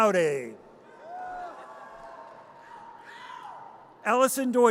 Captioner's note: audience cheers